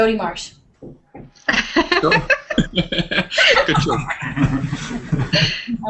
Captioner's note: laughter